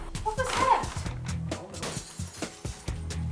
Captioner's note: glass shattering